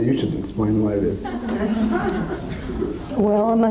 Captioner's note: audience laughs